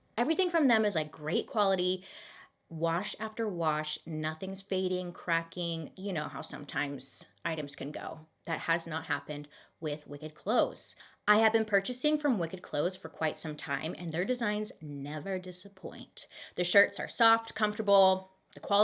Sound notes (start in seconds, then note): none